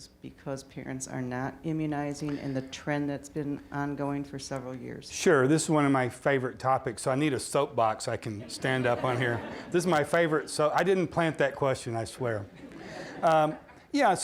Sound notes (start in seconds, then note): 8.3 audience laughing; 12.3 audience laughing